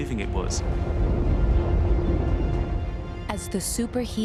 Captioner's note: rumbling continues